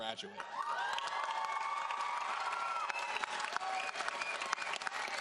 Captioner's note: audience cheering and applauding